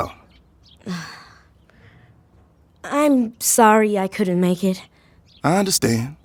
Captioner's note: sighing